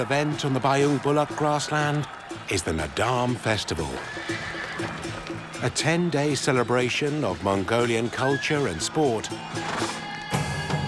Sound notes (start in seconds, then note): 3.9 horse whinnies